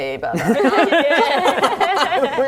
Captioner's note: laughing